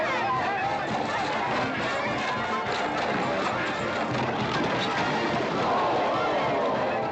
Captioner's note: cheering